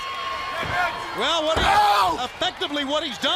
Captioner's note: crowd cheering